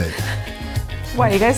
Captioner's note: laughs in background